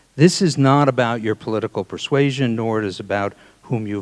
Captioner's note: none